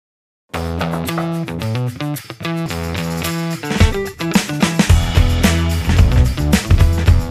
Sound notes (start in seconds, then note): 0.5 upbeat funky music; 0.8 knocking